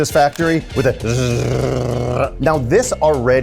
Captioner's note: makes whirring noise